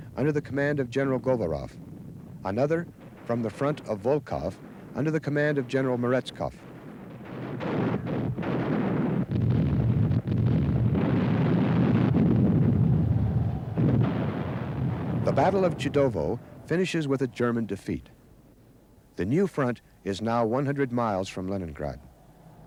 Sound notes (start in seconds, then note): 6.6 cannons boom; 9.3 shells boom